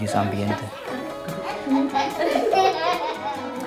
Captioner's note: giggles